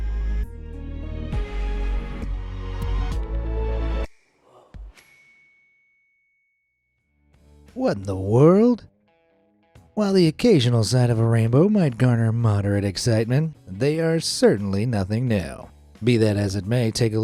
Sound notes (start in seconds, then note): 0.0 light suspenseful music; 5.0 bell dings